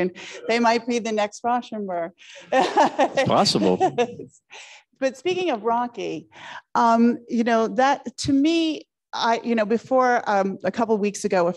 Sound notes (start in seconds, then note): 2.4 laughing